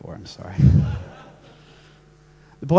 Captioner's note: laughs